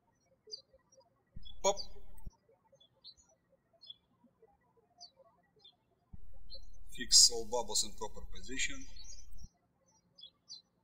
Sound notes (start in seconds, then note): 1.3 birds chirping